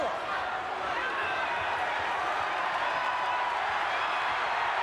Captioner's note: crowd cheering